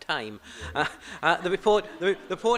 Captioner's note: laughter